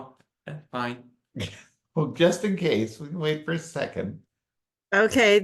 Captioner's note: chuckles